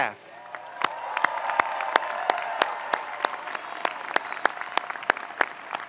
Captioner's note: audience cheering and applauding